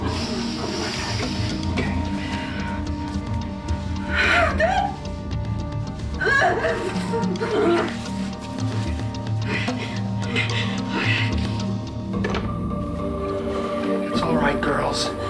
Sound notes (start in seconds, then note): 3.0 suspenseful music; 4.4 Nancy grunting; 7.3 suspenseful music; 12.6 suspenseful music